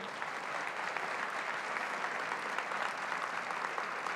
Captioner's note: applause